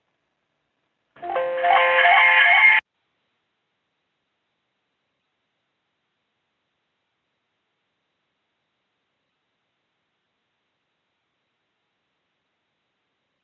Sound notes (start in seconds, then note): 1.2 computer chiming